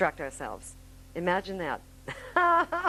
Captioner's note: laughing